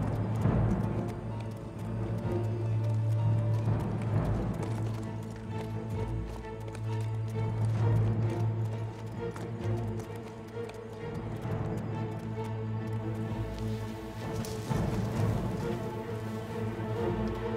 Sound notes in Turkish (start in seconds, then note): 0.2 Müzik - Gerilim; 8.2 At nalı sesi; 17.3 Ayak sesi